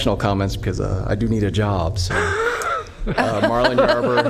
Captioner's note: laughter